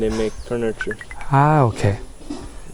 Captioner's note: smartwatch notification